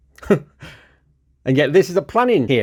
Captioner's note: laughs